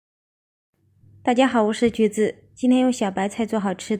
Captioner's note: Mandarin